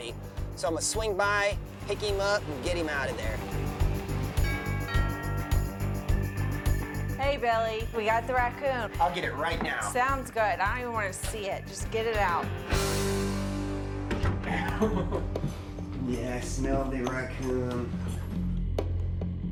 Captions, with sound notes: So I'ma swing by, pick him up, and get him out of there. [doorbell chimes] Hey, Billy. We got the raccoon. I'll get it right now. Sounds good. I don't even wanna see it. Just get it out. [chuckles] Yeah, I smell the raccoon.